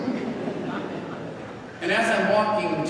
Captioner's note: congregation laughing